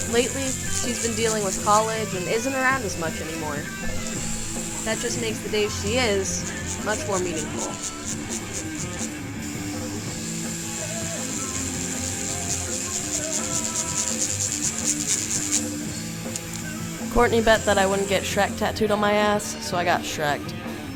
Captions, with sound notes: Lately, she's been dealing with college and isn't around as much anymore. That just makes the days she is much more meaningful. (rock music) (needle whirs) Courtney bet that I wouldn't get Shrek tattooed on my ass, so I got Shrek'd.